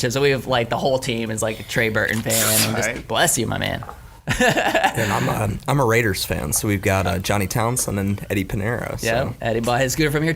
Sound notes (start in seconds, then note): 2.2 sneezing; 4.3 laughing